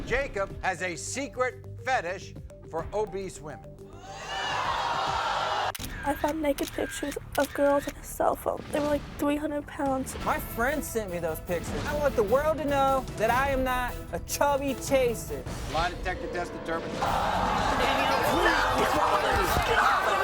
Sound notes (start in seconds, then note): 3.5 audience gasping; 17.0 audience gasping